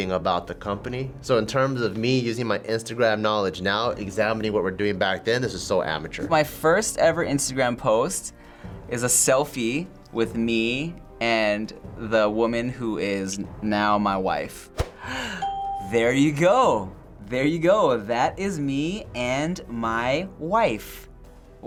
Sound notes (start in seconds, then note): 14.9 gasps